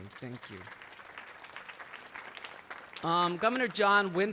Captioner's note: audience clapping